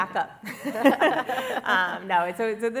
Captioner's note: laughter